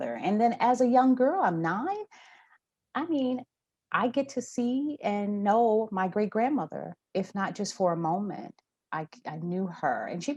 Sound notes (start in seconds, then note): none